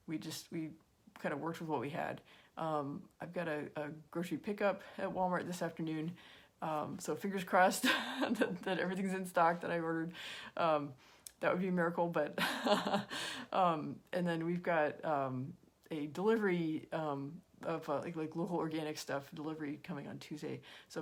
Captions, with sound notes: We just, kind of worked with what we had I've got a grocery pickup at Walmart this afternoon, so fingers crossed (chuckles) that everything's in stock that I ordered, that would be a miracle but (laughs) and then we've got, a delivery, of like little organic stuff delivery coming on Tuesday.